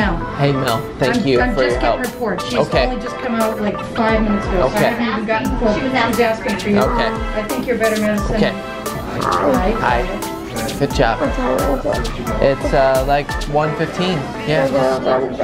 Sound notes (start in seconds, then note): 7.2 chatter; 14.6 chatter and beeping